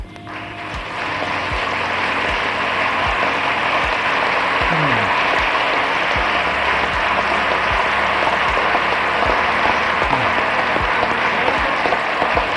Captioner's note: ovation